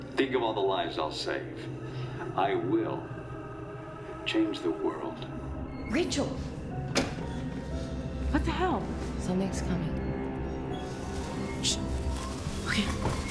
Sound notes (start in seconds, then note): 7.0 VCR clicks; 8.7 suspenseful music